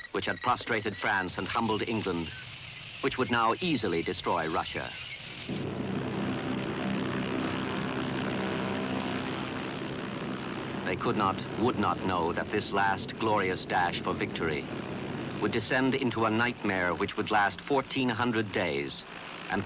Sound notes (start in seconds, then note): 5.8 airplane engines whirring